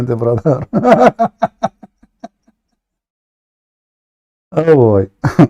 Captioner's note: Ketawa